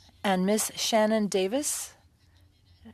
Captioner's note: speaking French